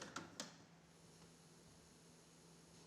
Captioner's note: click!; tape hisses softly